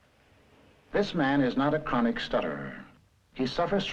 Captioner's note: voiceover